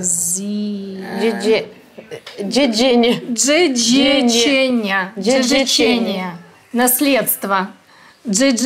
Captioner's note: reading in Polish